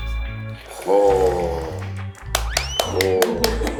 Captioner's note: applause